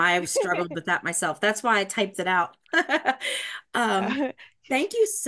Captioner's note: laughs